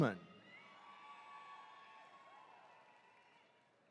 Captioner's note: attendees cheering